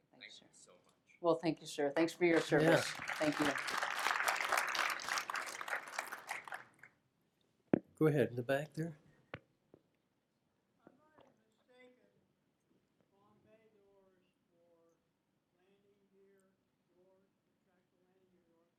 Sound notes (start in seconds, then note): 3.7 applause